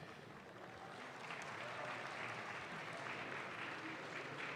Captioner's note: audience claps